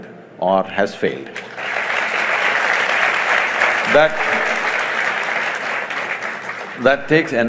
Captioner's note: applause